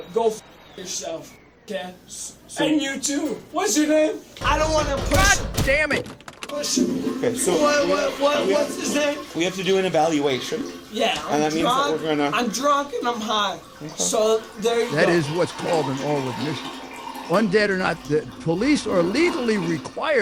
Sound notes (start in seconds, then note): 4.4 heavy knocking on stall door; 6.7 toilet flushes in background